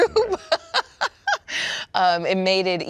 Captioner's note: laughing